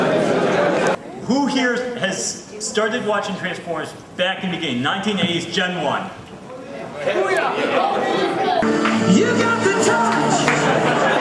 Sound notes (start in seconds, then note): 6.9 excited murmurs; 11.0 audience laughs